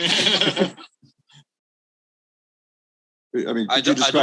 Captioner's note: all laughs